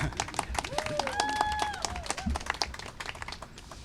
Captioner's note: applause and cheering